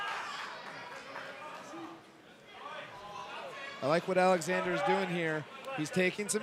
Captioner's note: applause